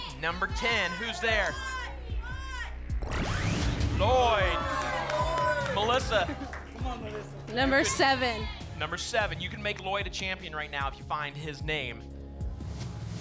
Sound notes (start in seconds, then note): 2.1 cheering